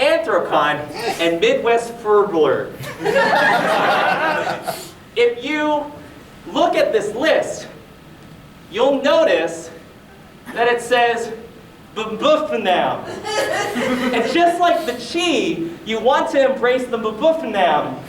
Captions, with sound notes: Anthrocon. And Midwest Fur-blur. (audience laughing) If you look at this list you'll notice that it says MuhBuhFNAM. And just like THE CHI, you want to embrace THE MBFNAM.